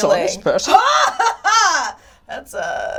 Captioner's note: laughs